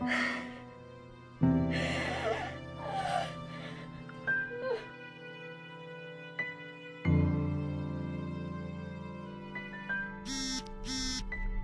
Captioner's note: sobbing continues